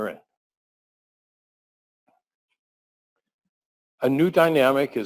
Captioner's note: pause